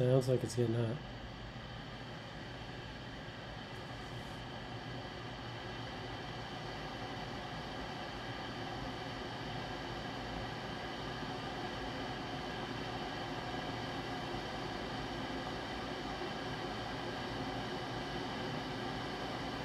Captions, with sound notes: Sounds like it's getting hot. (water in kettle boiling)